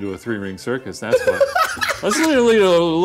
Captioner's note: laughing